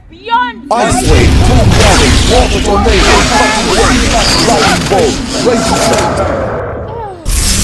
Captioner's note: barrage of spells